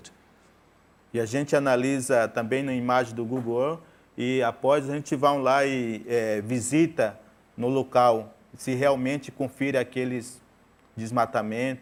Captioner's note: speaking in portuguese